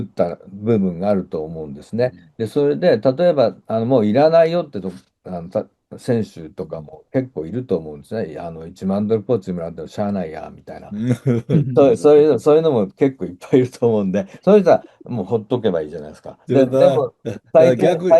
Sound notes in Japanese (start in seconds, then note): 10.9 笑い